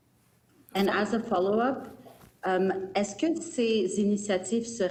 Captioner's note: speaking french